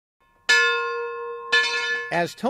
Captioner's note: bell ringing